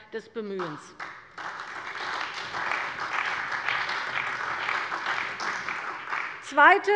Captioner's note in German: Beifall bei der CDU und dem BÜNDNIS 90/DIE GRÜNEN